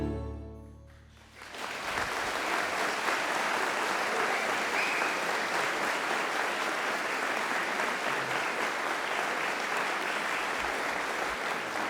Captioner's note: applause